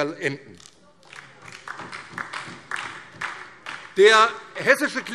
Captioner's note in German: Beifall